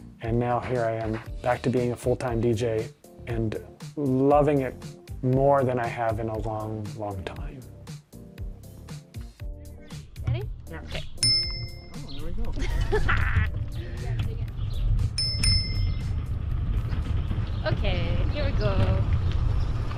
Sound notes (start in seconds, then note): 11.2 bell dinging; 12.5 laughing; 15.1 bell dinging